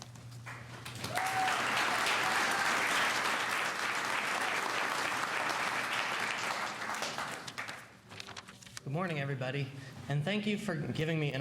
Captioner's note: cheers and applause